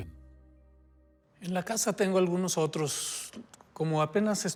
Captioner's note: speaking Spanish